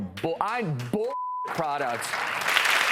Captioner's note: audience applauding